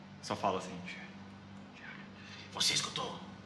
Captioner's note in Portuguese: sussurrando